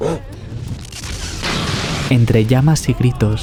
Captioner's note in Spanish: explosión